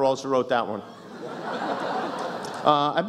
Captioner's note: laughs